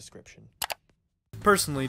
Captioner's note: mouse click